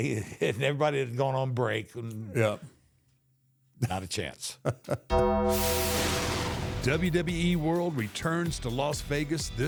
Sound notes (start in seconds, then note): 4.6 The Undertaker chuckles; 5.2 logo whooshes; 5.7 bell clangs